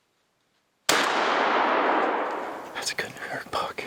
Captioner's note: gun firing